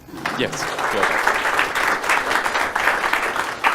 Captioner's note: applause